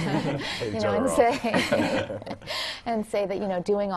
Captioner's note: laugh